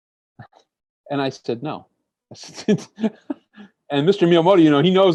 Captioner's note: laughs